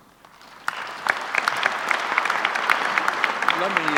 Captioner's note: audience applauds